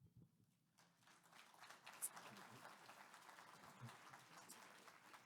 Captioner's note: audience applauds